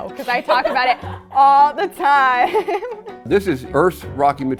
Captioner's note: laugh